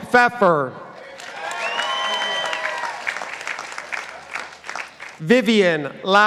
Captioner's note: participants applauding